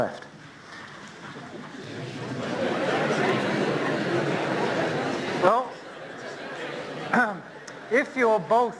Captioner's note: talking and laughing